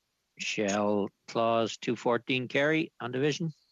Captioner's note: speaking french